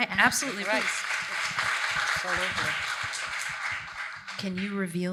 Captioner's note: audience applauds